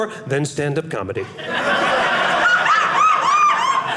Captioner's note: audience laughing